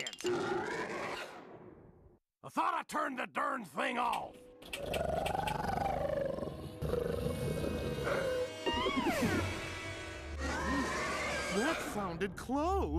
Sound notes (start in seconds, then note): 0.3 growling; 4.8 growling; 7.9 gulping; 10.4 snarling